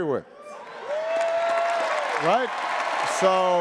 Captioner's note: attendees applauding and cheering